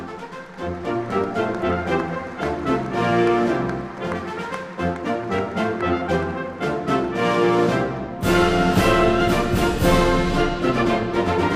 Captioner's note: applause